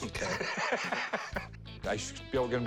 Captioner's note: laughs